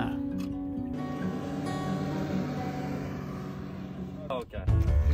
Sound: boat engine revving

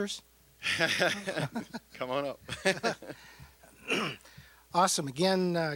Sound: laughing

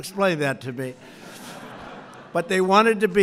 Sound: laughter

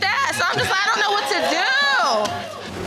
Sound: audience cheering

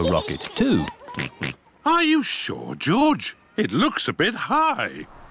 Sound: oinks

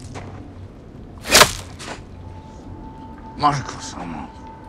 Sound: arrow hitting ground

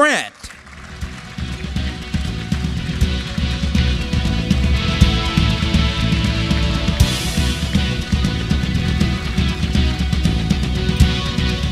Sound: applause

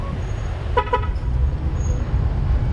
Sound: friendly honk

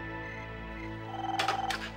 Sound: phone ringing

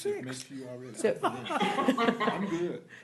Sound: laughter

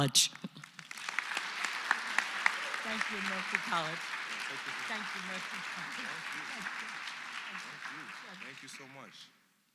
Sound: applause

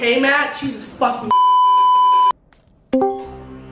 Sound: beeeeeep

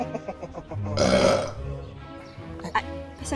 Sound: evil Laughter; burps

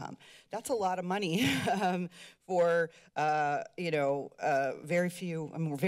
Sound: chuckles

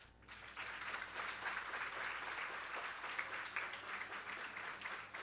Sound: applause

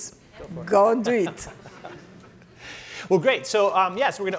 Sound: laughter

